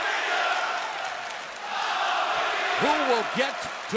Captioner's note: fans chanting